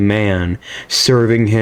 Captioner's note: inhales Oxygen